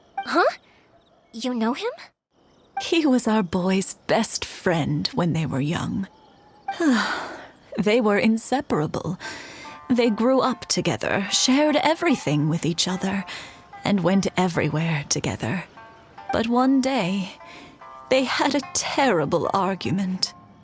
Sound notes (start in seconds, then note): 6.8 sigh